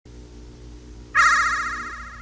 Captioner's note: ominous static noises